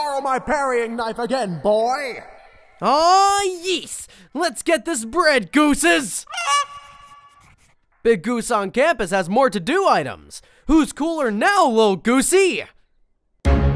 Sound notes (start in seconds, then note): 6.2 goose squawks